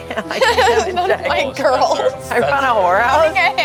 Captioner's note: laughs